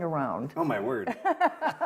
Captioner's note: laughter